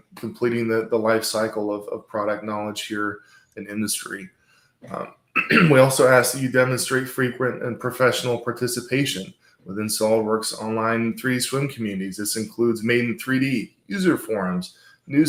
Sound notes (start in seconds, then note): 5.3 throat clearing